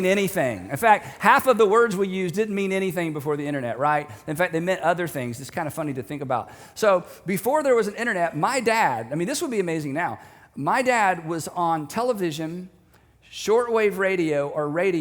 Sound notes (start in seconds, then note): none